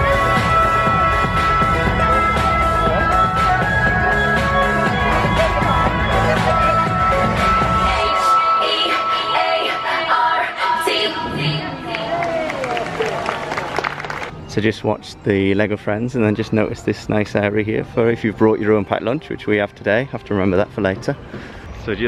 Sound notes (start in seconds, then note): 12.0 applause